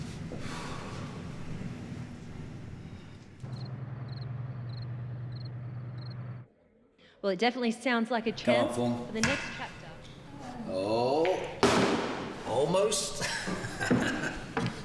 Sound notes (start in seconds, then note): 3.4 crickets